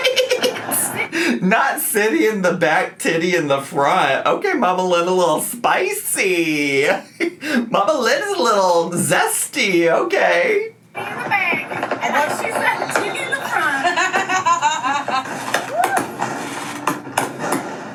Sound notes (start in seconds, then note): 13.4 laughs